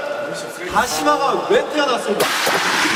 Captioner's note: rubbing